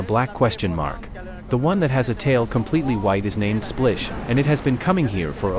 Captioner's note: Splish